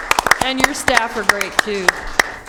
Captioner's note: applause